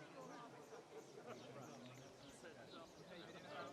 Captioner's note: birds tweet